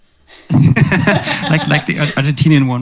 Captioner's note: laughing